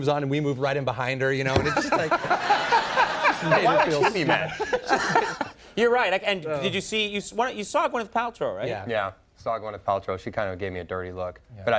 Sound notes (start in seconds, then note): 1.5 everyone laughing; 5.2 laughs